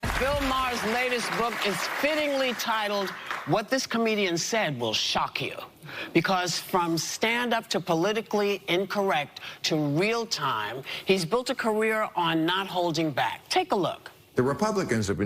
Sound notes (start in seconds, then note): 0.0 applause